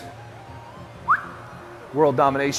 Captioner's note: whistle